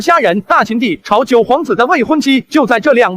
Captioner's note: none